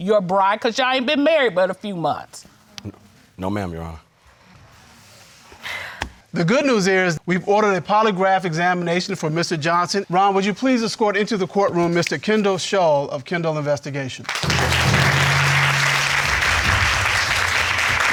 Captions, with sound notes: and literally your bride 'cause y'all been married for about a few months. No, ma'am, Your Honor. (SIGHING AFFIRMATIVELY) The good news is, we ordered a polygraph examination for Mr. Johnson. Ron, would you please escort into the court room Mr. Kendall Shull of Kendall Investigation? (CROWD CLAPPING)